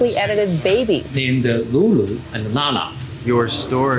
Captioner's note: speaking Chinese